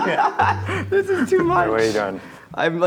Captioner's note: laughing